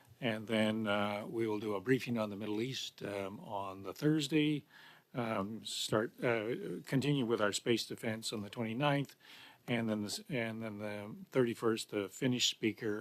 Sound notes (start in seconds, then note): 5.8 speaking French